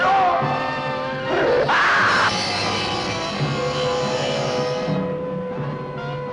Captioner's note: screams